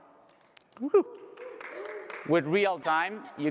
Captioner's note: applause